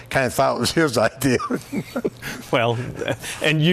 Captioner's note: laughing